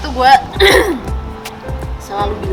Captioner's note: cough